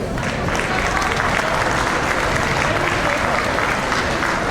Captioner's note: audience applauds